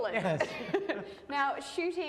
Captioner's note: both laugh